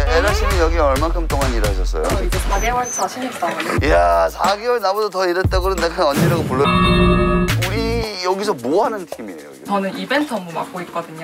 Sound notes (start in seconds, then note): 3.2 chickling